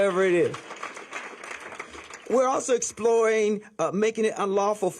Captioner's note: applause